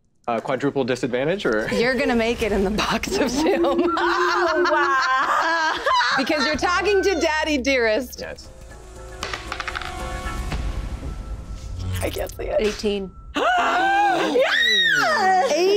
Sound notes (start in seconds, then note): 3.1 group laughing; 8.9 intense music; 13.4 group gasping